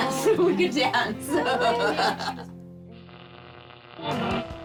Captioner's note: laughs